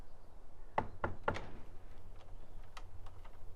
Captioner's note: knocks